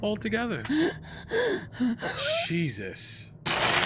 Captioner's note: Matilda pants